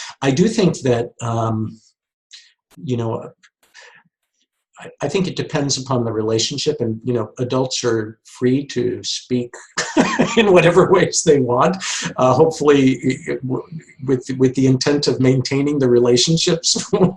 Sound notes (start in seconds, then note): 9.5 laughs; 16.9 laughs